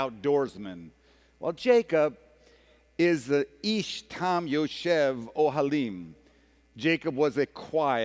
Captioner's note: speaking hebrew